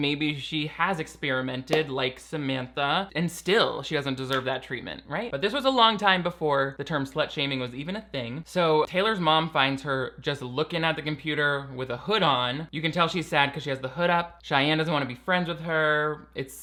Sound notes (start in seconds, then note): none